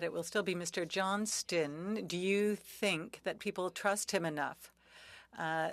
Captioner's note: speaking French